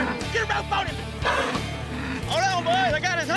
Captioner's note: cow grunting